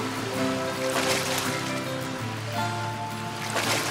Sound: dolphin splashing

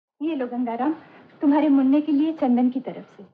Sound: none

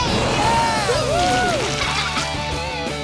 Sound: laughing

